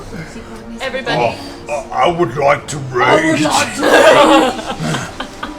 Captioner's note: Grog voice